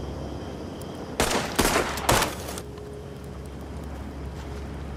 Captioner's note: weapon firing